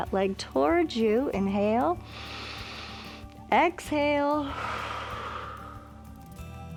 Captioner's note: exhales; inhales